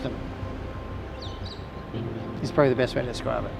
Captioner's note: birds chirping